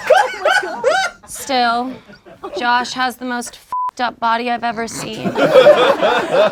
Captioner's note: beep